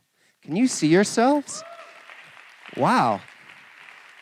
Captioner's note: cheering and applause